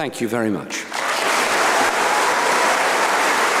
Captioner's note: applause